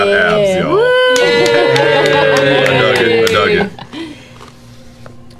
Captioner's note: cheering